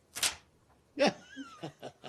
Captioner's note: laughter